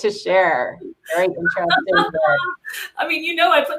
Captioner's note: laughing